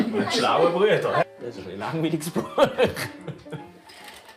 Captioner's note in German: Lachend